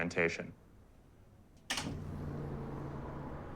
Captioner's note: door opening